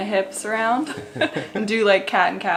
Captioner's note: laughs